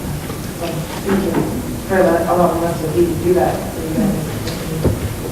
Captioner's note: speaking off microphone